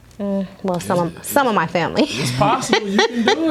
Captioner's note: laughs